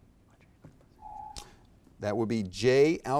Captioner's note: whispering; alarm echoes